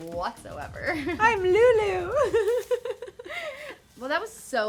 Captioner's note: laughs